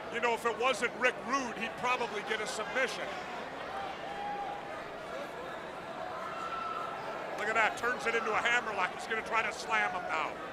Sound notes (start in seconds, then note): 3.5 crowd chatter